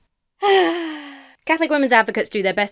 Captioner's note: sighs